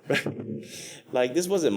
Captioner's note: laughs